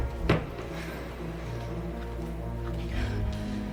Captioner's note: gasps; panic breathing